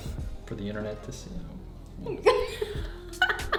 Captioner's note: groans; laughing